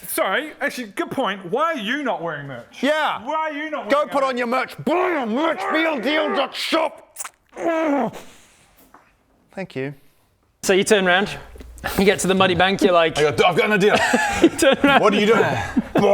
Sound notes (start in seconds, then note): 7.1 big sh!ts sound